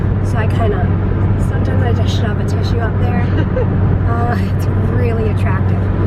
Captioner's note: laughs